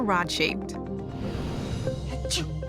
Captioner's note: sneezes